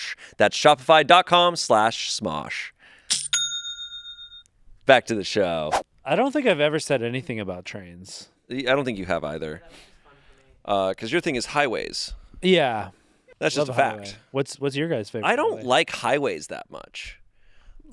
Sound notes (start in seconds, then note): 2.7 cash register clangs; 5.7 screen whooshes